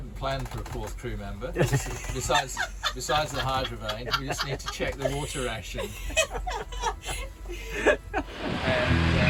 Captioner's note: laughter